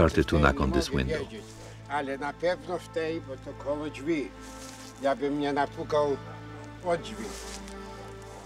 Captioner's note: speaking Polish